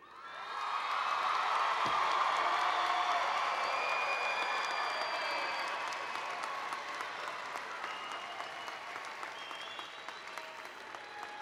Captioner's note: applause and Applause